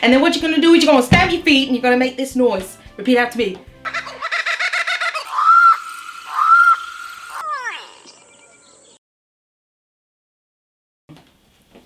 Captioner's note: bird calls